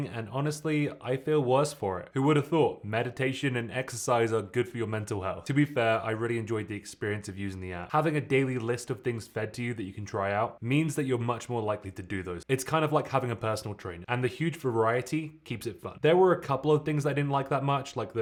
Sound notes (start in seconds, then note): none